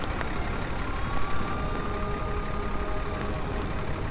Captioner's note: fire raging; gentle music; fire engine siren blaring